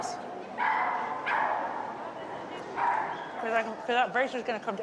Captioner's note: dog barking